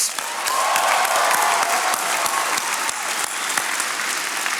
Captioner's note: attendees applauding